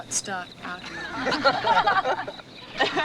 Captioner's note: teenagers laughing